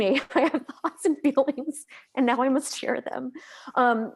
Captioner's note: laughs